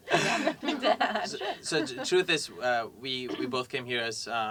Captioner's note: laugh